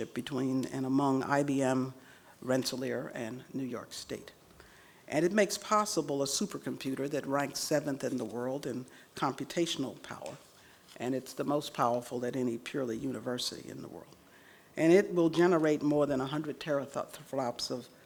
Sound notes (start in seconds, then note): none